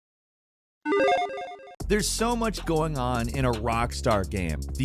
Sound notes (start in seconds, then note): 0.8 game tones